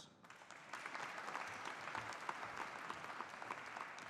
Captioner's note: audience applauding